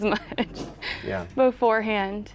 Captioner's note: laughs